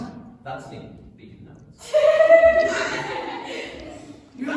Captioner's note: giggles